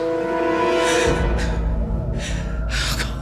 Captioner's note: breathes heavily